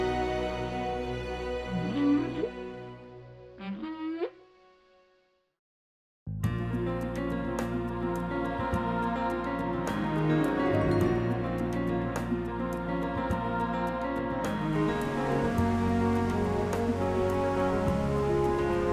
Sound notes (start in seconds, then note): 0.0 regal music; 1.7 whale calling; 7.4 inspiring music; 14.6 water rushing